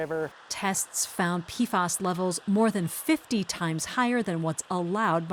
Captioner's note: voice-over